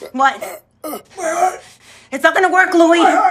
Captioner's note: he gasps; he groans